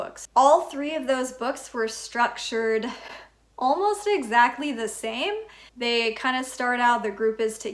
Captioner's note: chuckle